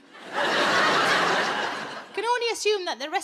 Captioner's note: audience laughing